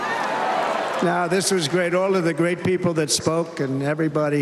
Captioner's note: cheers and applause